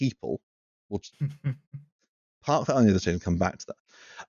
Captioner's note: laughs softly